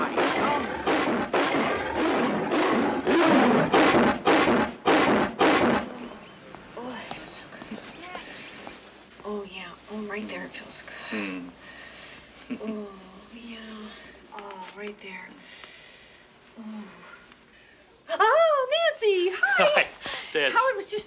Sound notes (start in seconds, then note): 13.1 inhales